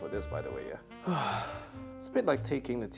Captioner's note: sighs